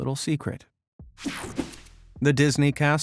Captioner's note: image whipping effect